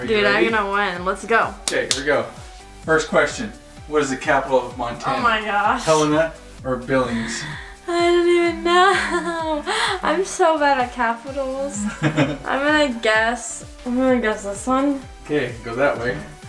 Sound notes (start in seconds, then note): 1.6 claps; 11.7 laughs